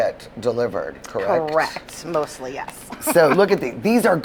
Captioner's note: laughing